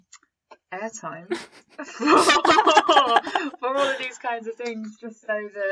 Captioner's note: laughter